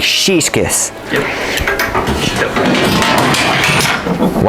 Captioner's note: much clanging and banging